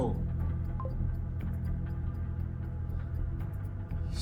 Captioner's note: computer bleeps